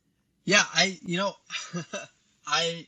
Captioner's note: laughs